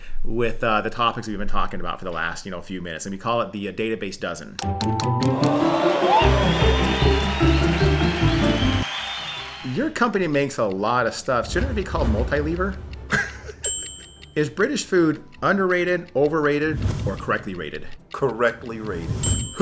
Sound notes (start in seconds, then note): 4.6 bright upbeat music; 13.1 laughs